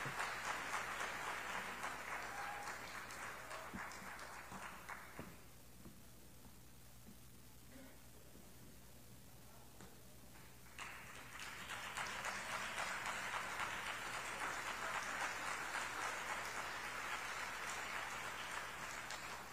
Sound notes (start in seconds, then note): 8.0 applause